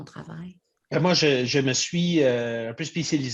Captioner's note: speaks French